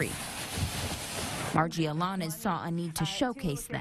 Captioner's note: rustling hay